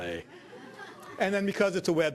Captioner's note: audience laughing